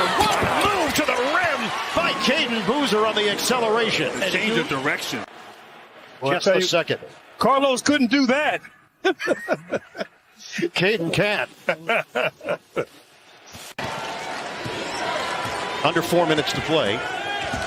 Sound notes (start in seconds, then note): 11.3 laughs